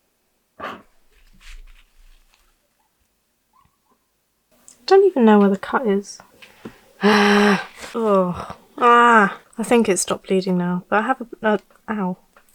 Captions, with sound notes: I don't even know where the cut is *more sighs of frustration and disguist and pain* I think it's stopped bleeding now but I have a- argh. OW!